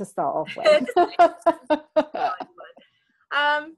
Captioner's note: laughing